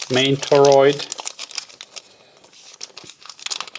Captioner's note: plastic crinkling